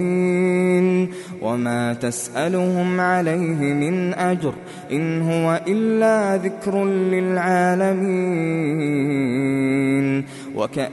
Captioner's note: reciting